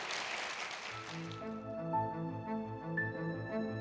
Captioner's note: applause